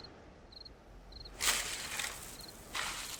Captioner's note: tree branch rustling